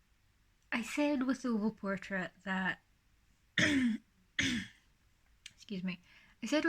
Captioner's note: clears throat